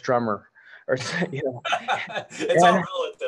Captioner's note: laughter